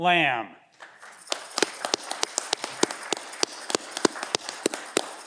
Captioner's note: audience cheering